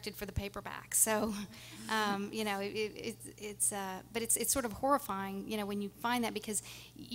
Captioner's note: laughing